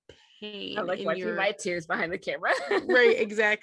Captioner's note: laughter continues